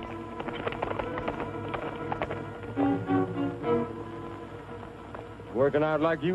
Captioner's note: horse hooves